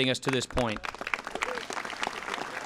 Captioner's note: applause